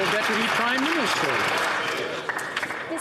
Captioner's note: some Applause